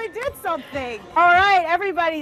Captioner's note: laughs